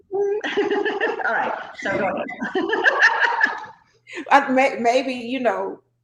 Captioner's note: laughing